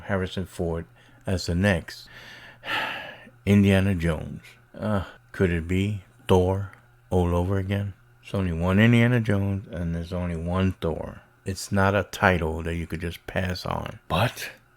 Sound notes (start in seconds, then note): 2.1 heavy sigh